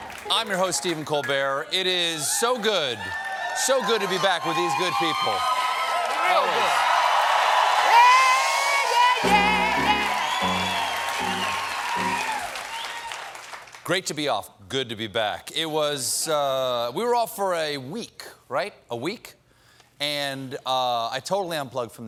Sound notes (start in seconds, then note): 7.3 cheers and applause; 7.3 piano riff